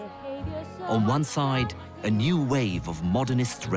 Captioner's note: voiceover